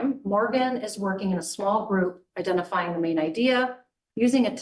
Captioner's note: none